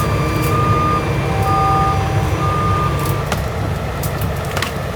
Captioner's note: truck whining; branches cracking; leaves rustling